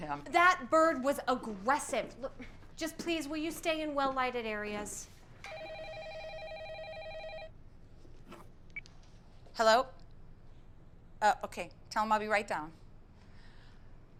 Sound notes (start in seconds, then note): 5.4 telephone ringing